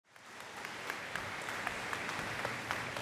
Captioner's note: applause